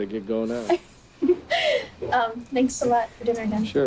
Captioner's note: both laughing